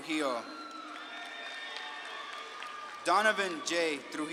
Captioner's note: audience claps and cheers